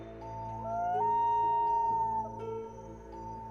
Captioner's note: wolf howling